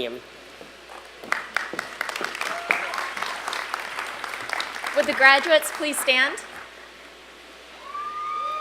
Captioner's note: applause